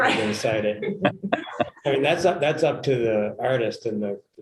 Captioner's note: laughter